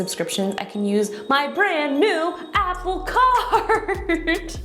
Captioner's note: laughs